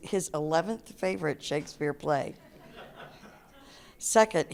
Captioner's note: audience laughter